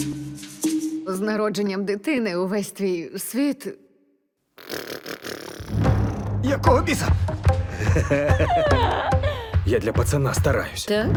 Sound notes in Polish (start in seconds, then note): 4.3 naśladuje odgłosy wybuchów; 7.6 rechocze